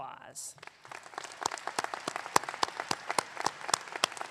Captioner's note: audience clapping